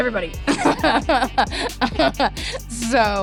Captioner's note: laughs